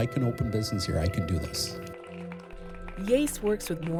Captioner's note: applauding